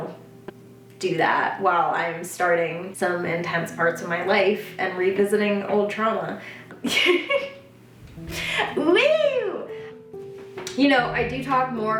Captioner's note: laughs